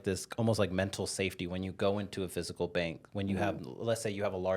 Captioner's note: none